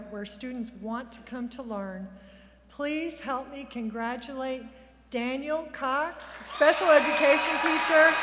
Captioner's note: applause; cheers